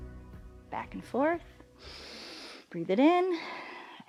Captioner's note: inhales